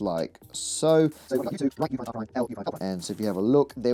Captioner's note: sped up audio